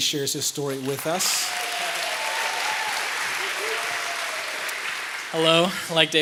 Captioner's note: applause